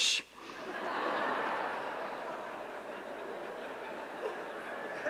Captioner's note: audience laughs